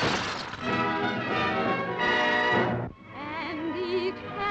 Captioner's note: glass breaking